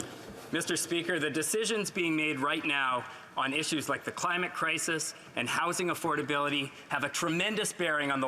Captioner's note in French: voix de l'interprète